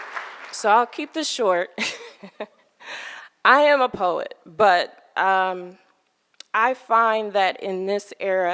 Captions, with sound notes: So I'll keep this short. (laughing) I am a poet, but I find that in this era, it is difficult